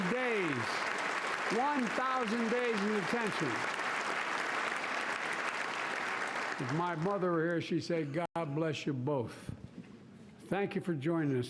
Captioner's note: cheers and Applause